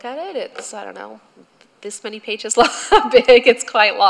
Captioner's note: laughter